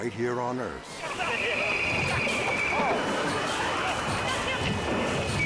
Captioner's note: crew yelling